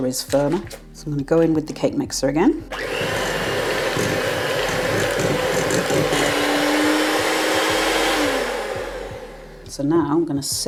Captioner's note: cake mixer whirring